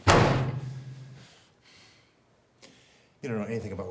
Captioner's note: hand slams loudly